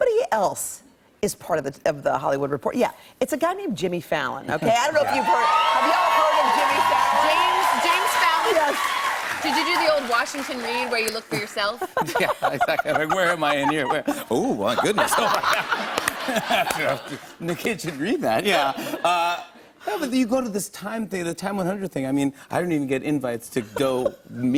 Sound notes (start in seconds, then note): 7.7 cheers and applause; 11.3 laughter